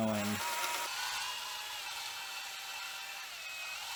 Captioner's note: drill whirls